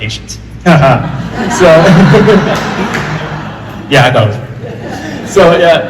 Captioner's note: laughter